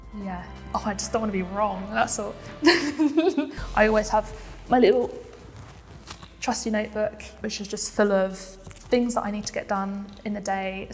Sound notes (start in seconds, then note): 2.6 chuckles